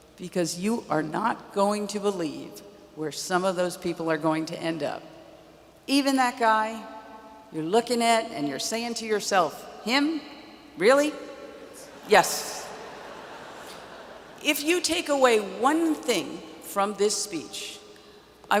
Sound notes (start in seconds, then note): 12.7 audience laughs